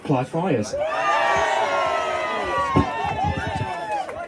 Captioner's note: loud cheers